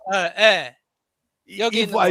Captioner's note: non-english speech